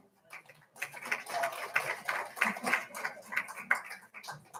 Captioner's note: all applauding